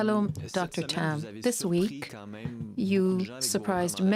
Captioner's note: speaking French